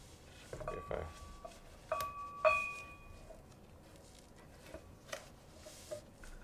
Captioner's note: bell gently clanging